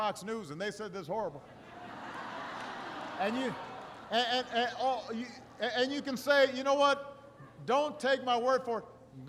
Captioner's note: laughter